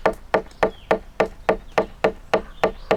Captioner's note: continues tapping wood